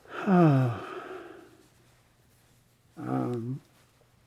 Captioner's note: sighs